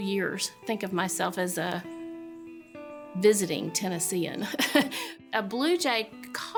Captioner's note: chuckles